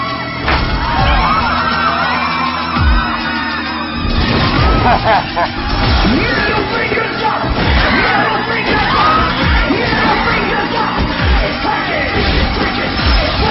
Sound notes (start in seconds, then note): 4.6 man laughing